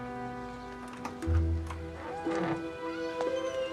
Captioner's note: door opens